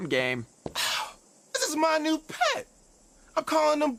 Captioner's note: scoffs